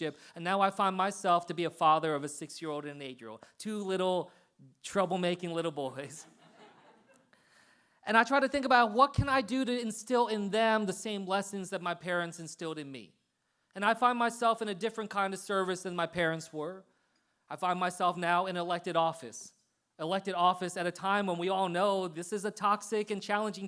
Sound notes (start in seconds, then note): 6.2 laughter